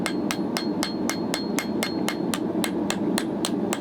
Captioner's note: hammer banging on anvil